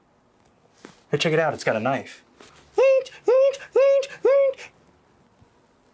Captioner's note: imitates "Psycho"